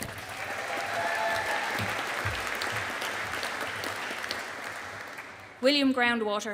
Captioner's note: audience applauding